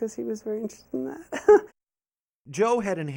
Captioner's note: laughs